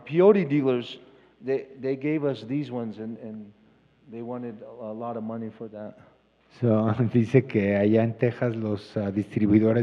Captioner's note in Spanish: Expositor habla en inglés